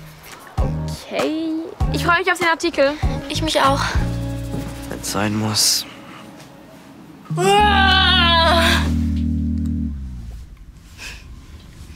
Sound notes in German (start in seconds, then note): 7.5 Joyce brüllt